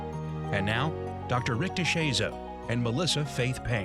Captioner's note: voiceover